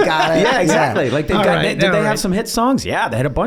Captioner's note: all laugh